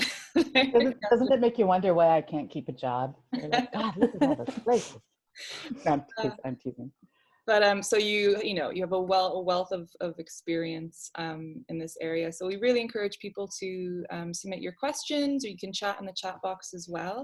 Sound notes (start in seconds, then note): 3.4 laughter